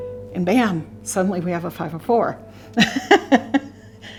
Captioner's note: laughs